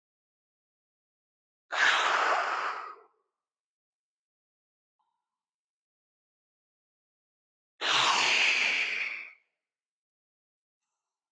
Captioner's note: breath